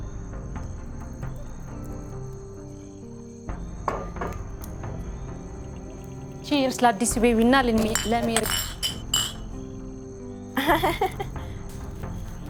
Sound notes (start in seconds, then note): 10.5 laughing